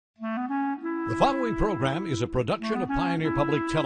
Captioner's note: voiceover